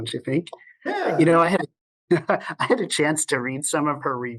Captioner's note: laughs